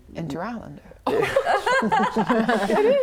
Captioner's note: laughing